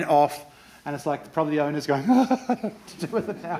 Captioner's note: chuckles